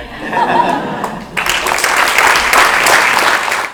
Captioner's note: applause